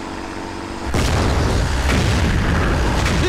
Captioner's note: Explosion